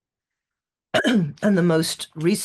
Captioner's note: clears throat